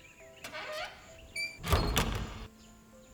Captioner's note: Une Porte qui se ferme